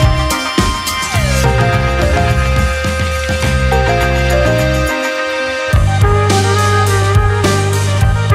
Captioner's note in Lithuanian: Plojimai